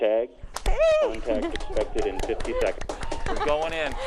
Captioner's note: applauding